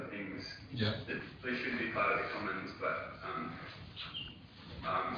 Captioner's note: audio distorts